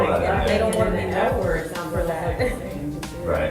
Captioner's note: chuckles